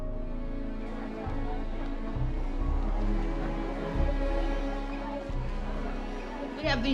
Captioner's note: people talking in background